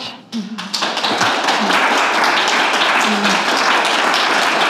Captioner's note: applause